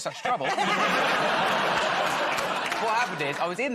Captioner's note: laughter